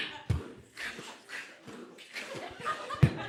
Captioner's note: laughing